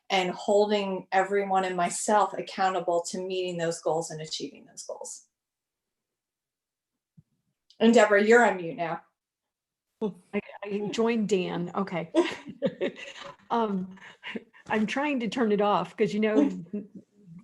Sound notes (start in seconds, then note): 12.2 laughs